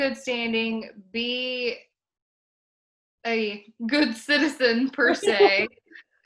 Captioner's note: laughs